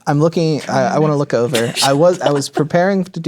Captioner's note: whispering